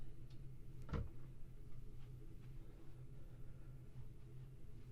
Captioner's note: door clicking